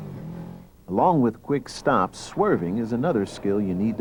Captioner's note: voiceover